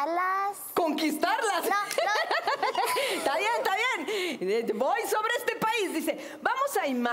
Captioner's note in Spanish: Risas